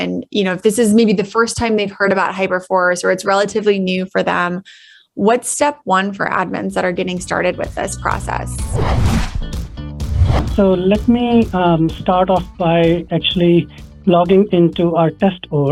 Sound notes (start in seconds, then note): 8.6 upbeat music; 10.0 air whooshing